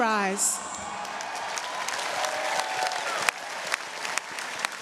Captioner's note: audience cheering